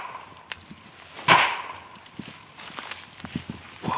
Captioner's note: knocking